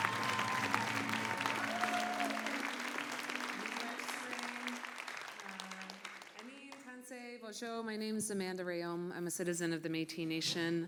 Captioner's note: applause